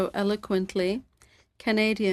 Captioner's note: speaking French